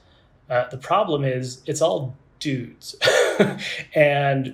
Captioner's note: laughs